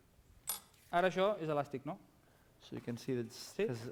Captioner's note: non-english speech